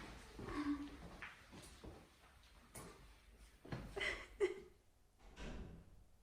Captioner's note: sobbing